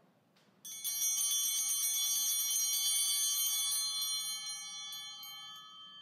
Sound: bell ringing

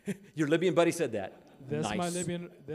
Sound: laughing

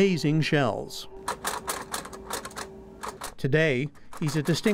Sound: sound of braille typewriter tapping

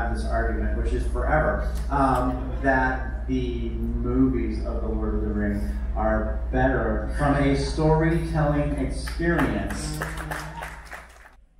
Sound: applause

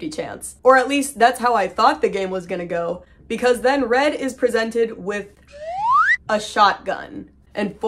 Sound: slide whistle

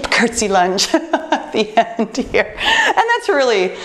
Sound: laughs

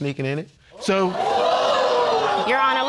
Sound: audience gasping

